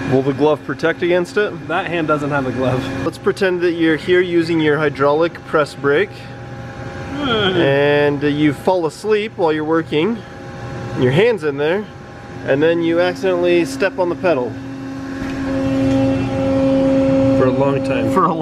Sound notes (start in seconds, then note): 7.1 groans; 15.9 buzzing